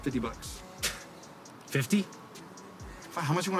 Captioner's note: scoffs